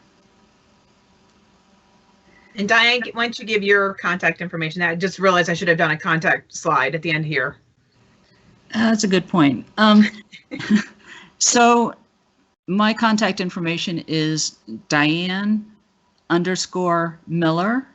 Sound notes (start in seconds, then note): 10.0 chuckles